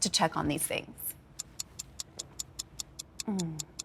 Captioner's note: ticking